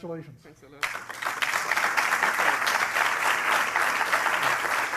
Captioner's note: applause